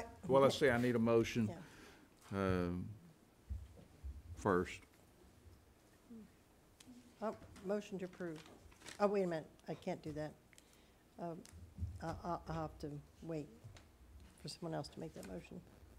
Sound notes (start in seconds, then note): none